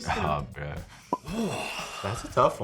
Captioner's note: Chris sighs